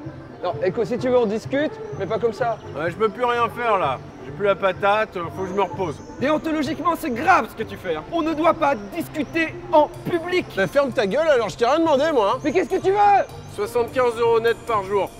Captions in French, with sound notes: - Non, écoute, si tu veux on discute, mais pas comme ça, - Hé, je peux plus rien faire, là. J'ai plus la patate, 'faut que j'me repose. - Déontologiquement, c'est grave, ce que tu fais, hein. On ne doit pas discuter en public. - Ben ferme ta gueule, alors, je t'ai rien demandé, moi ! [hurlant] : - MAIS QU'EST-CE QUE TU VEUX ? - 75€ nets par jour.